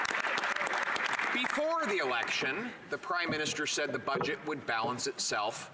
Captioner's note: some Applause